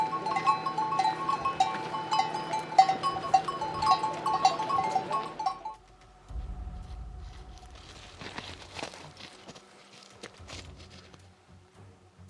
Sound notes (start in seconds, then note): 3.8 phone ringing